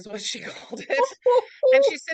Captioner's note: laughs